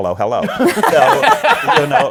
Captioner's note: laughter